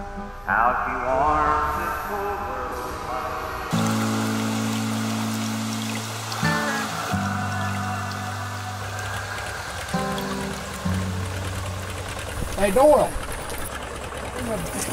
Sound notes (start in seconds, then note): 4.3 water babbling; 5.1 slow acoustic music